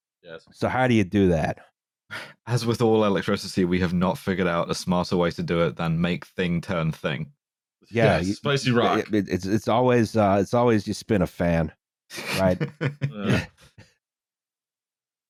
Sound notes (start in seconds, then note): 12.2 chuckles